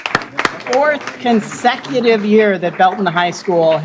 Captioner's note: applause